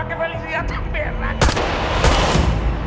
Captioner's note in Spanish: Disparos